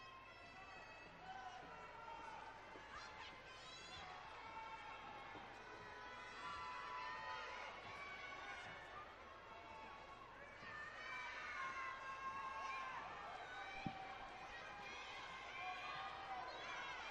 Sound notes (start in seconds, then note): 11.2 yelling